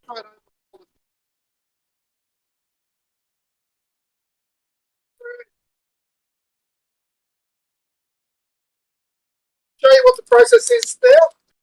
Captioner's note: audio dropout